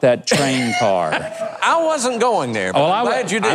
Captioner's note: laughs